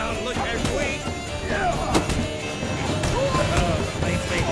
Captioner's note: punches land, grunting and groaning